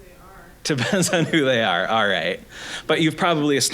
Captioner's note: laughing